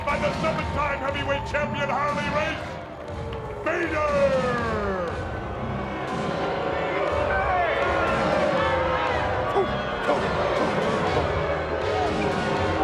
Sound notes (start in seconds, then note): 6.1 audience jeers; 6.1 dramatic music